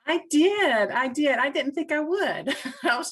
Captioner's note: laughs